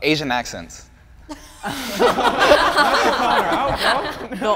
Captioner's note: group laughing